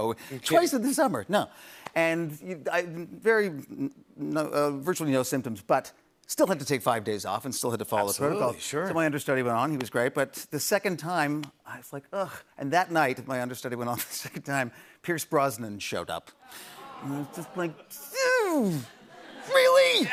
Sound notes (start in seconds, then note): 16.2 audience groans